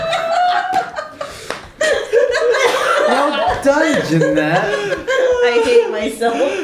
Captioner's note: laughter